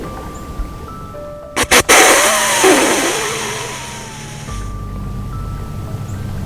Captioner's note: soft music; sound of snort-wheeze call; soft music